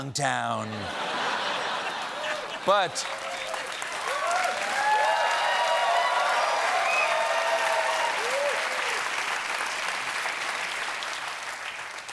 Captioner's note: laughter